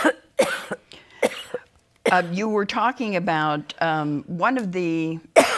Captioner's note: strangled coughing